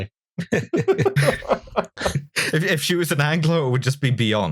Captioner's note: laughter